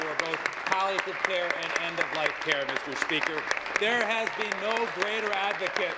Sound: applause

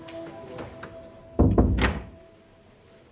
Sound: door closing

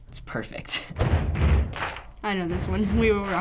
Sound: stomping and clapping

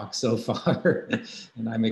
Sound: laughing

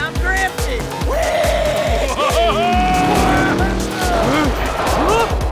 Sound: Lightning laughs

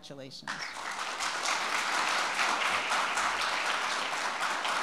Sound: audience applauding

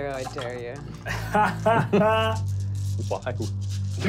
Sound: laughing

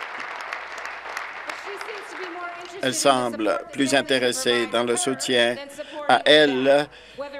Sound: applause

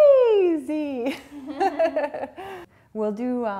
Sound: laughing

